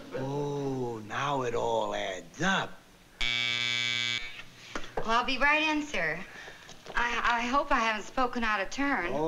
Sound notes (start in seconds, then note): 3.2 intercom buzzes